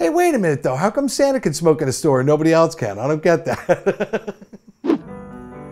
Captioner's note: laughs